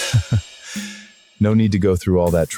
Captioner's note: laughs